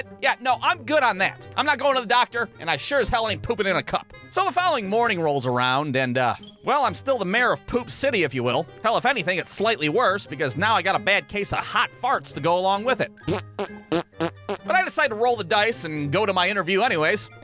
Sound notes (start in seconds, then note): 13.2 pft; 13.3 pfft!; 14.2 ptsss